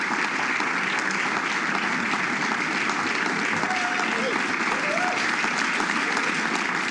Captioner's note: applause